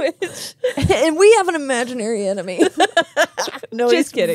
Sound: laughing; laugh

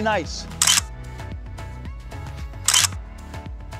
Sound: camera clicks

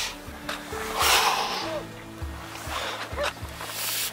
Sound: sighs

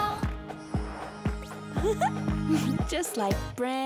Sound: laughing

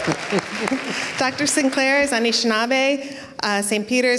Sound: foreign speaking

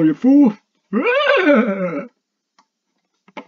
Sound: laughs

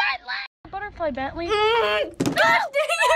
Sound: restrained groan

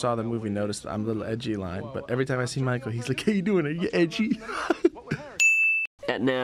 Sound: weird voice; ding sound

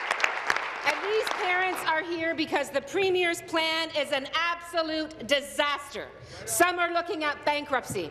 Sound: applause

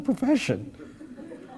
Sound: laugh

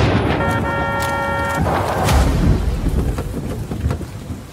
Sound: thunder rumbles; car horn honking

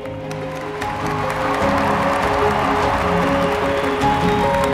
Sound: cheers, applause

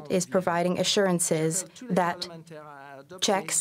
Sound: speaking French

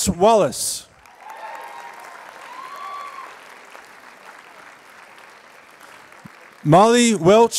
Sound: applause

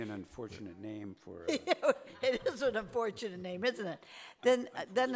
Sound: laughing

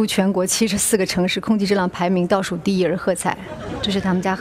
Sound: laughter

